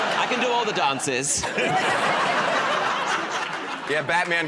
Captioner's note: laughter